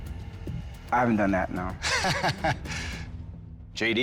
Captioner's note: laughs